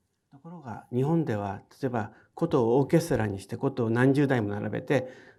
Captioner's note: speaking in foreign language